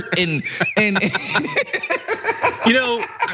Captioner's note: laugh